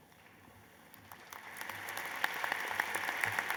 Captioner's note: applause